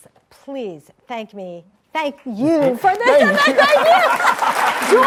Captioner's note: laughing